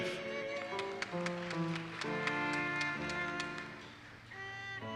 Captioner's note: audience applauses